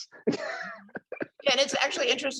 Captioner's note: laughs